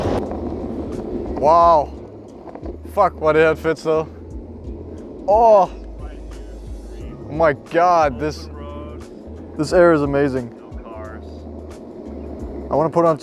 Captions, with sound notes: (Danish) Wow! Damn is this a nice place. Oh my god, this area is amazing. I want to put on turbo.